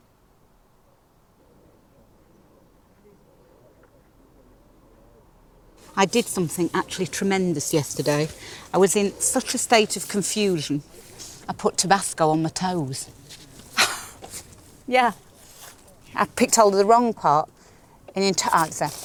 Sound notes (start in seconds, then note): 13.6 laughing